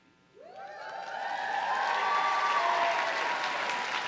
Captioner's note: audience cheering